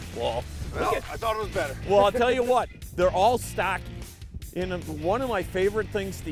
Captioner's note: laughing